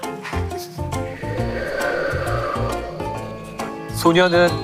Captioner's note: A sound effect of wind